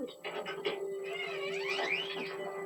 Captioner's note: the door opens